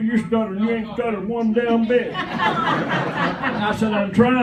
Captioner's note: laughter